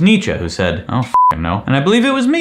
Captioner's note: beep